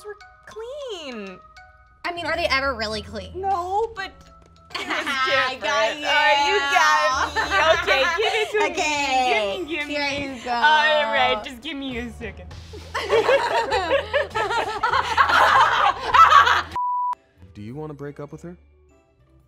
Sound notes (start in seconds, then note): 4.7 laughing; 6.7 laughing; 12.7 laughing; 16.7 beep